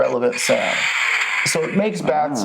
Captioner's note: car revs